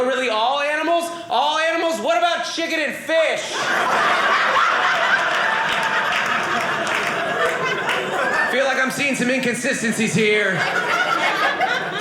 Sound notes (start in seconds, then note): 3.4 audience laughing